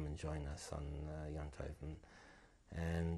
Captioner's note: non-english